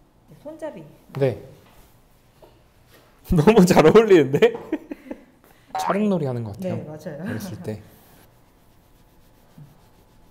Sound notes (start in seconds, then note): 4.4 hehehe